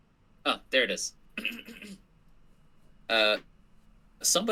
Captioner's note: clears throat